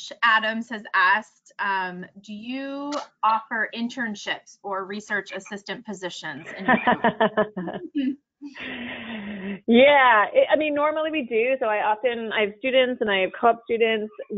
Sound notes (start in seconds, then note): 6.4 laughs